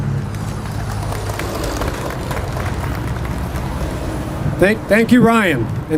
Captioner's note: clapping